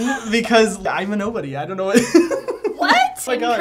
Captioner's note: giggling